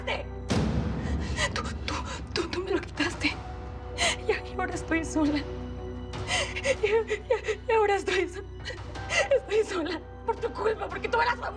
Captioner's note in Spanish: sollozos